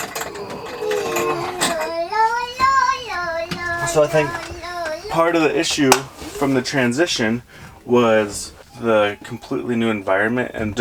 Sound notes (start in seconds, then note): 0.0 groans